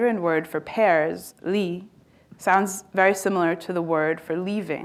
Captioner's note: speaking chinese